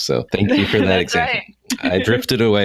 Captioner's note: giggling